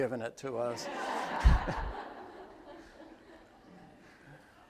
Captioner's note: attendees laugh